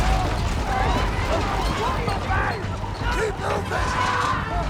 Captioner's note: rumbling; screaming; man screams